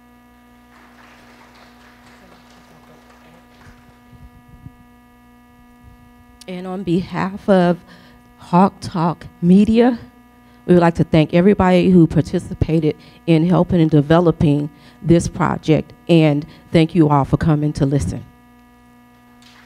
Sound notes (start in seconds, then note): 0.6 audience clapping